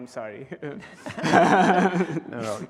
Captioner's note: laughs